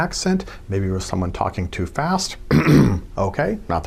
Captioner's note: clears throat